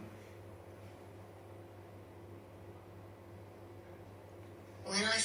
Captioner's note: none